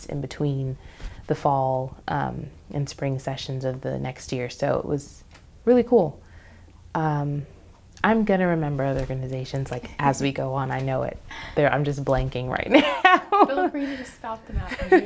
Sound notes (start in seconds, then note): 12.7 laughs